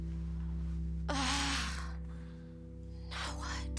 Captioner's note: Cassie sighing